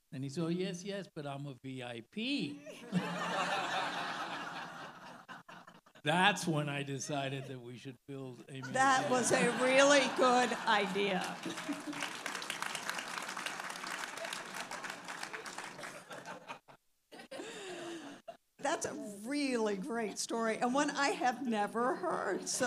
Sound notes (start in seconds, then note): 2.6 all laughing; 10.7 all laughing and clapping